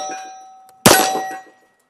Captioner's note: bang